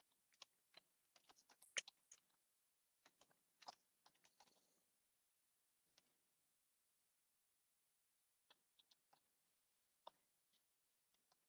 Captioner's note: silence